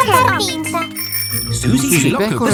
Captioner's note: bicycle bell rings